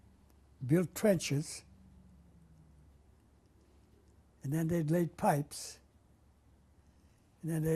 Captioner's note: pauses for 3 seconds